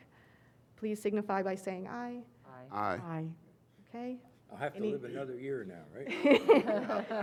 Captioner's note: laughter